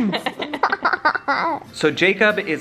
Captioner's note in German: lacht